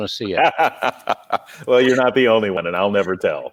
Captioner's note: laughs